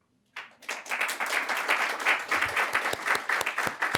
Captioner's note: audience applauding